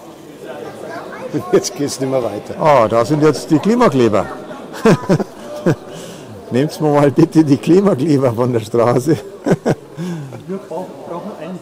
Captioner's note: laughter